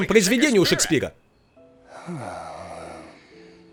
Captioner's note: <i>sighing</i>